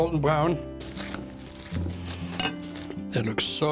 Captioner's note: crust crunching